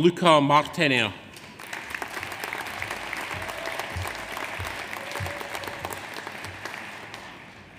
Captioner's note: audience applauds; audience cheers